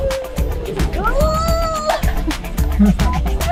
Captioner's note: screams; laughs